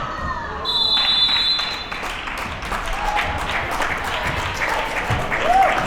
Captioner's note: crowd applauds and cheers